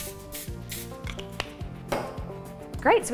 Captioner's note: cap clicking